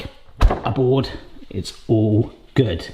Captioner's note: door shuts